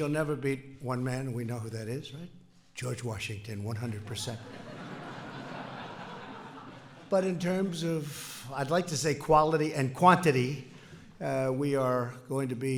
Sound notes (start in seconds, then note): 4.1 laughter